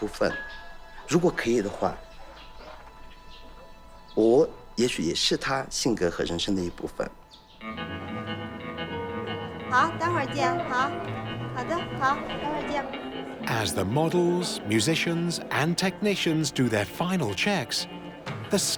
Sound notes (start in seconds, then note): 11.0 speaking Tibetan